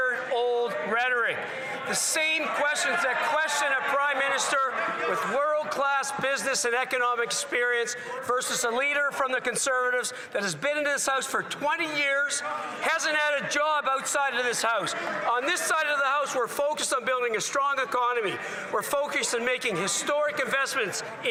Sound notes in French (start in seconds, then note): 3.6 voix de l'interprète